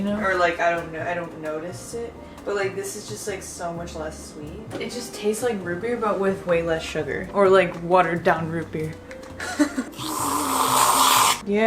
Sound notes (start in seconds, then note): 9.4 laughs